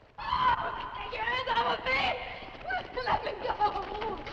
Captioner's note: screams